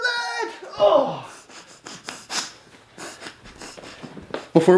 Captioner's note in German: stöhnt; lacht